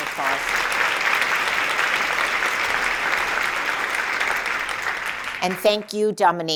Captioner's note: applause